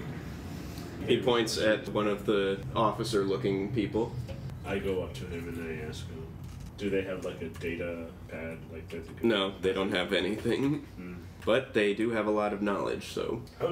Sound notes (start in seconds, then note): none